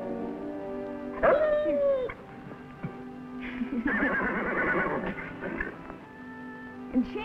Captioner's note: Rebel whines